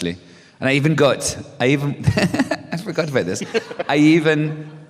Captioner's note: laughter